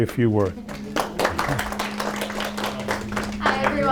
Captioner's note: applause